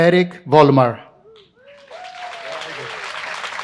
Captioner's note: applause